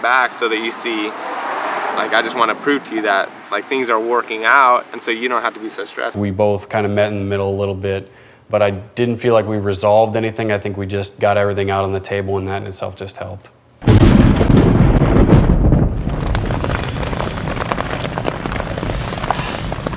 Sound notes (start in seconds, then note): 13.8 thunder rumbles